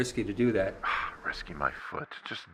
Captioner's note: scoffs